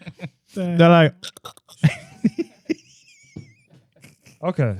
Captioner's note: laughing